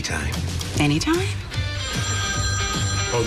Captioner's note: phone ringing